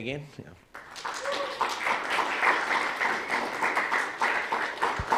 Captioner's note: applause